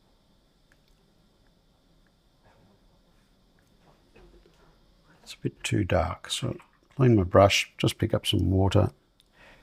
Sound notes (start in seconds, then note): 2.1 silence